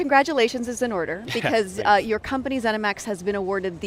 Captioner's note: laughs